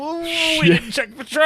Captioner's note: groans